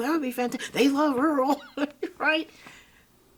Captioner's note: chuckle